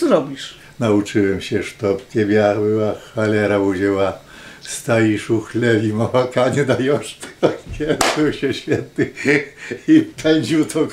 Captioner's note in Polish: In Russian